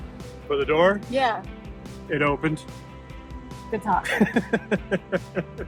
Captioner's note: laughs